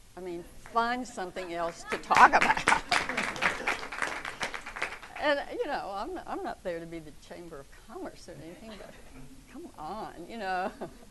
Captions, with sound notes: "I mean, find something else to talk about." (audience claps) I'm not there to be the chamber of commerce or anything, but come on, you know?